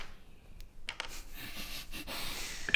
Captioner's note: smug sniggering